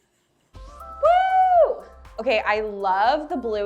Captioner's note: cheering